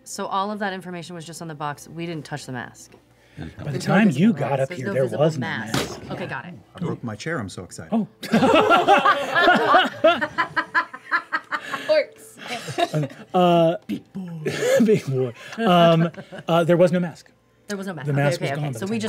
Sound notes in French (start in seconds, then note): 5.7 bruit sourd; 8.2 rires